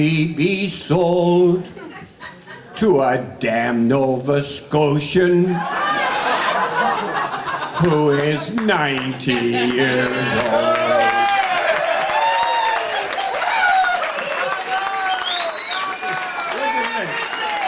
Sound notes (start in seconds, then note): 5.4 audience laughing; 11.1 audience cheering